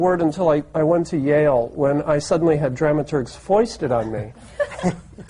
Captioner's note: laughter